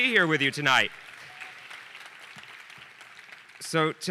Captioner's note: audience applauding